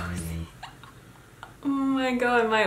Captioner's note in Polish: chichot